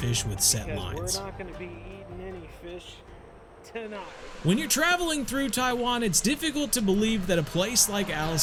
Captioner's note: talking